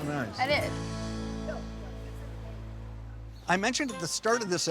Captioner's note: customers chatting